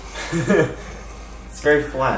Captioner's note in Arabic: يضحك